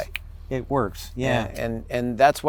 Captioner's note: snaps